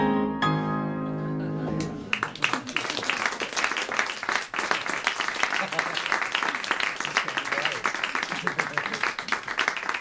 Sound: applause

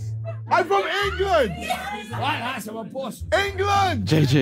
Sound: indistinct chattering

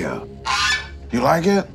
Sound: goose squawks

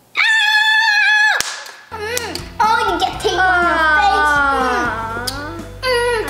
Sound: yelping

